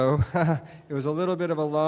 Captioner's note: chuckling